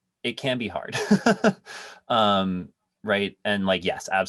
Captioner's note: laughs